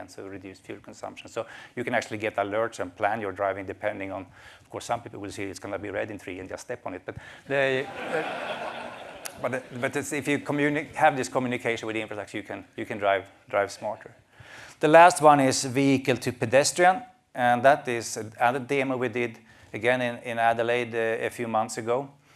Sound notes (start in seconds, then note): 7.8 laughter